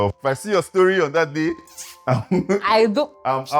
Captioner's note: laughs